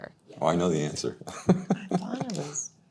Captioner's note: laughs